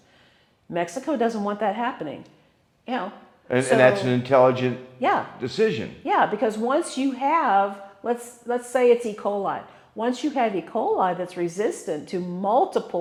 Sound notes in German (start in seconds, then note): 3.5 ja, ja